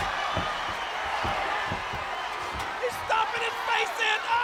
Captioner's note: audience cheers